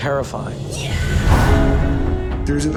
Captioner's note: incoherent screaming